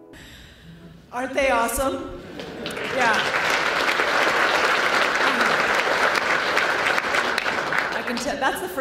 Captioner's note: applause